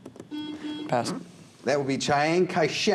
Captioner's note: buzzer